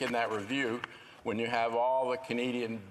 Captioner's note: speaking in French